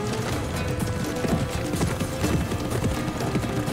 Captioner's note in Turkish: At nalı sesleri